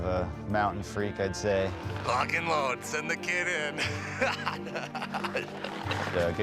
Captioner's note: laughter